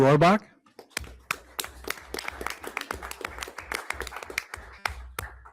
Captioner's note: everyone applauds